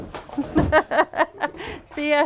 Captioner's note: laughter